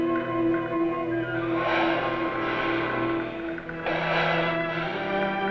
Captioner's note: breathes deeply